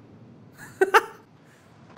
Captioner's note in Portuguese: risos